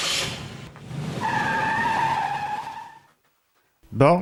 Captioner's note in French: Crissement de pneus